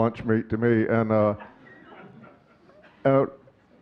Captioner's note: audience chuckling